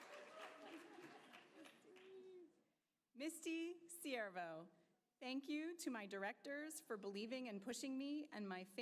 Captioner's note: applause